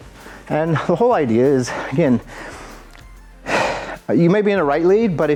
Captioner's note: exhales